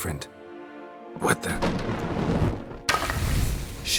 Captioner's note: door slams; flames whoosh